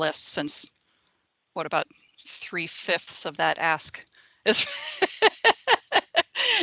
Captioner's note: laughing